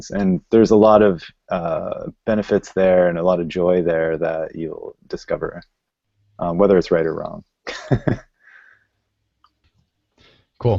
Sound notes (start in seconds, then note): 7.7 laughing